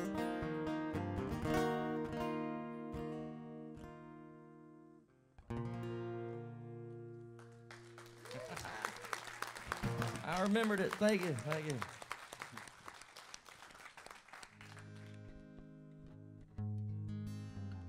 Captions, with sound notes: (audience cheering) I remembered it, thank you, thank you. (guitar strumming)